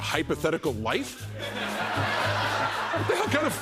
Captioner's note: laughter